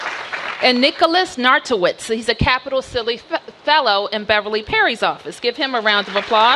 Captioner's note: applause